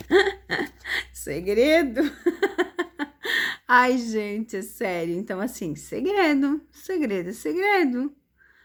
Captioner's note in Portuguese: risadas